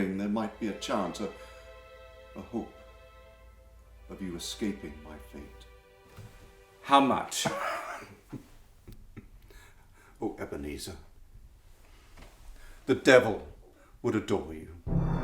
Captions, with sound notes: there might be a chance, a hope, of you escaping my fate. - How much? - (laughing) Oh, Ebenezer. The Devil would adore you.